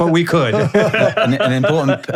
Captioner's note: both laughing